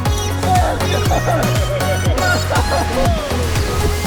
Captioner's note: group laughs